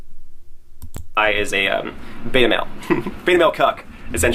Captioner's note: chuckles